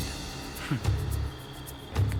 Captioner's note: chuckles